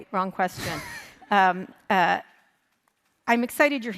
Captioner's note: chuckles